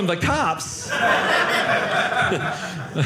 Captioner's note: audience laughing